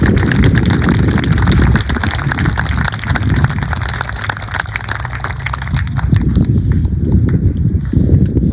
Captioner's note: applause